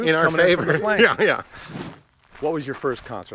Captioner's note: laughs